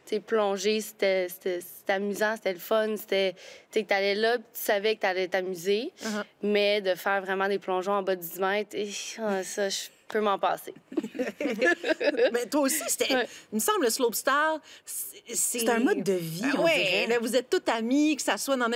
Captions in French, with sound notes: plonger, c'était amusant, c'était le fun, c'était... Tu sais, t'allais là, puis tu savais que t'allais t'amuser. Mais de faire vraiment des plongeons en bas du 10 mètres... Hi! Ça, je peux m'en passer. (rires) - Mais toi, aussi, c'était... il me semble, le slopestyle... - C'est un mode de vie, on dirait. - Bien oui! Là, vous êtes tous amis, que ça soit